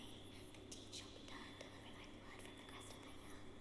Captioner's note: whispers